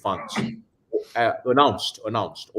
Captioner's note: person sneezes